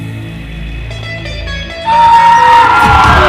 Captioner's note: cheering